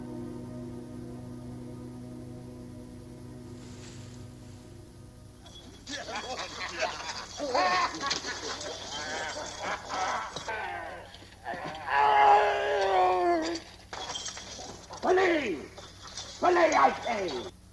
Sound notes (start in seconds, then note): 5.6 laughing; 11.7 groaning